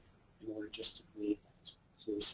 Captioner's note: speaks faintly